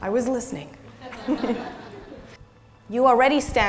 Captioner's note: audience laughing